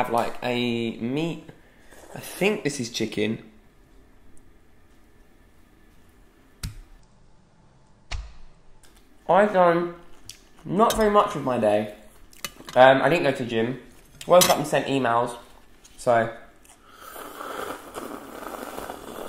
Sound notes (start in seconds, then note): 6.9 thumping; 16.6 slurping